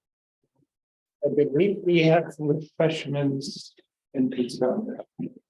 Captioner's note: silence; chatter